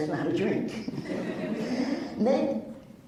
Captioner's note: laughs